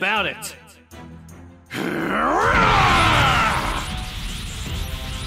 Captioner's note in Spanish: Grita